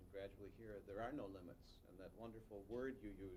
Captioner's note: none